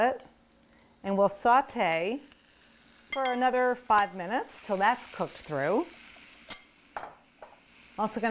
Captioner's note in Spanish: crepitando